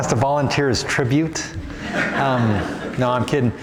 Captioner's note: laughter